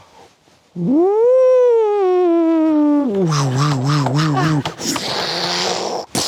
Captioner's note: imitates alien craft whooshing; imitates alien craft crashing